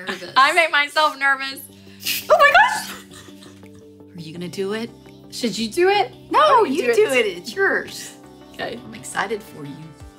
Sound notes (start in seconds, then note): 2.1 air hisses; 2.2 laughs